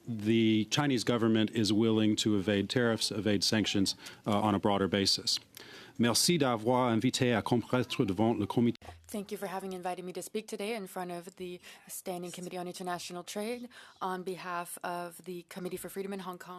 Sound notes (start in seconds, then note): 10.0 speaking in French